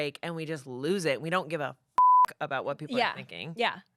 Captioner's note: beep